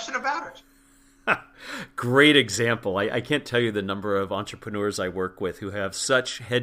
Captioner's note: laugh